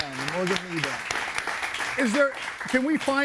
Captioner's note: audience applauds